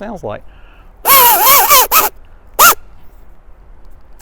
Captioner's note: loud buzzing noises